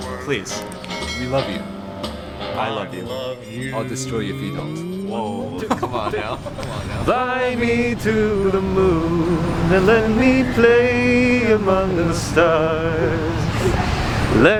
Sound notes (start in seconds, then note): 6.7 laughs